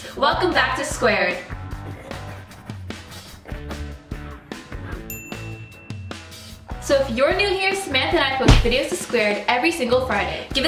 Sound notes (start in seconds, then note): 2.6 upbeat music; 4.9 chiming